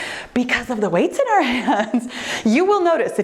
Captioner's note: laughs